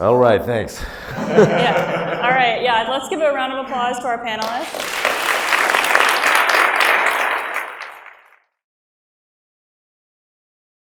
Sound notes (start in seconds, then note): 0.0 audience laughs; 4.4 audience applauds